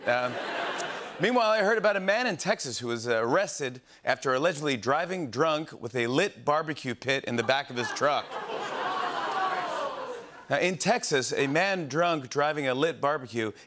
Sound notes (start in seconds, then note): 7.4 audience oohs